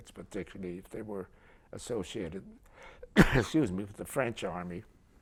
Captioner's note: coughs